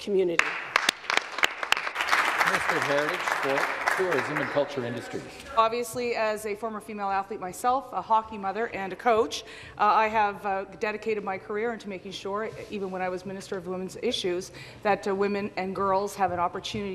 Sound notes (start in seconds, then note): 5.1 applause